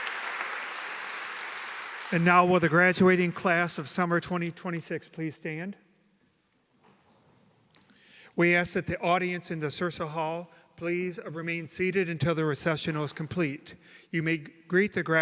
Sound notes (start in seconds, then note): 0.0 applause